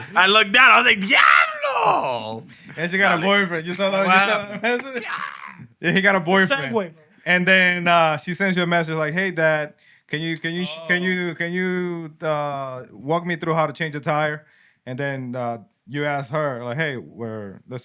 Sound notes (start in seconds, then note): 1.3 non-english Speech